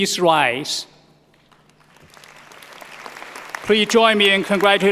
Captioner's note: applause